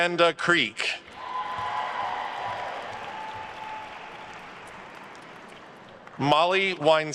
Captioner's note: attendees cheering and applauding